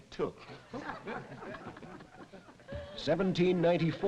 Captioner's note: group laughing